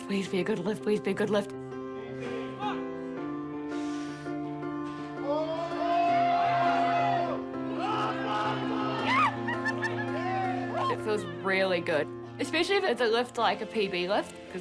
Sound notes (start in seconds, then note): 3.6 inhales loudly; 5.7 cheering; 7.8 laughs excitedly